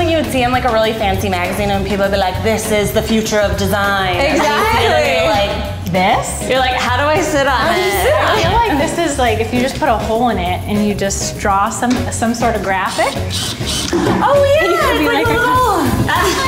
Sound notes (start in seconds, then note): 13.2 drill whirring